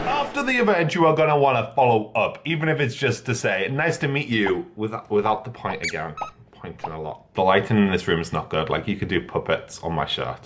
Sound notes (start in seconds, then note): 5.7 bubble pop; 5.7 fast squeak